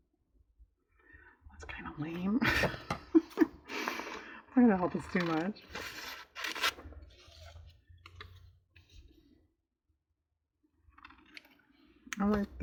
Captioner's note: laughs